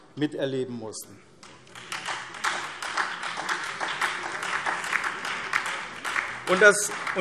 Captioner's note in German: Beifall SPD und Freie Demokraten